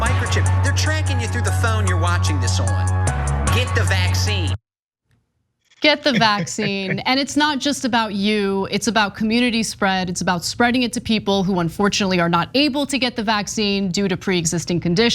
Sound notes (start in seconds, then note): 5.8 laugh